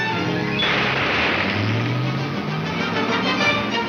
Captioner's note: car engine revs